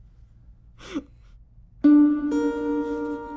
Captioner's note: chuckling